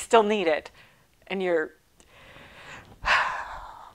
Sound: sighing deeply

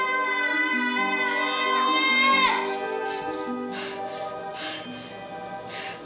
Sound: screaming, breathing heavily

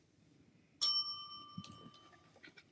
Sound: bell dings

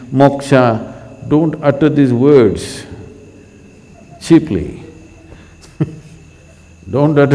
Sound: laughs

